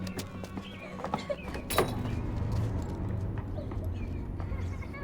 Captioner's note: young Chuck crying